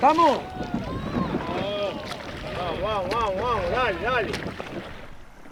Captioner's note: cheers